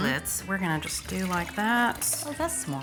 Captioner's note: liquid pouring